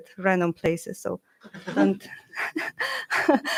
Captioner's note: laughter